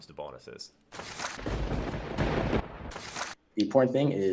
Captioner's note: lightning strikes